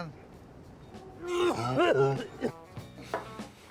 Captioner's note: vomits